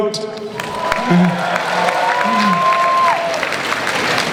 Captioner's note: audience applause